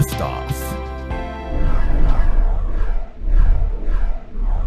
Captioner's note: air whooshing